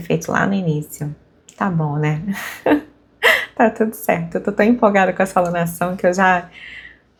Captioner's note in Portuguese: risadas